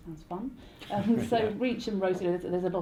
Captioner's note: laughter